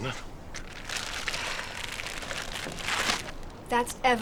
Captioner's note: plastic rustling